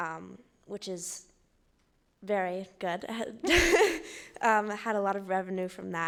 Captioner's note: laughing